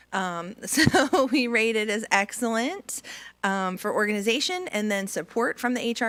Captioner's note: laughs